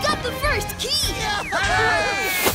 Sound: cheering

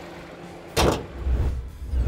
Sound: hood closes

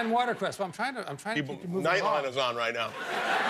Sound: laughter

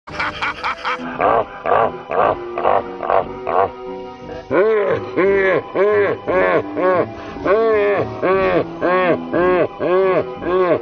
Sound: laughing

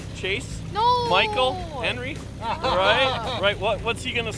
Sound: laughing

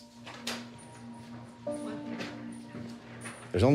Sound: door opens

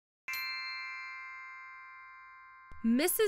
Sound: magical chime

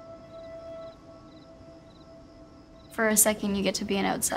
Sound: crickets chirping

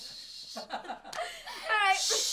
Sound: laughs

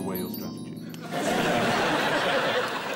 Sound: laughter

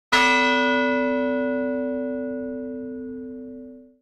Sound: gong sound

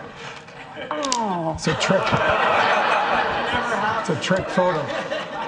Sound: Steve laughing; audience laughing

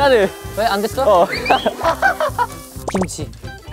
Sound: only laughs

